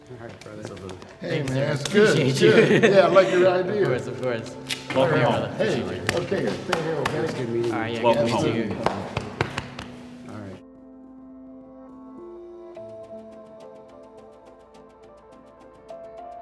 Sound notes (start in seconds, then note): 3.5 laughing; 5.6 back thumping; 13.0 gentle upbeat music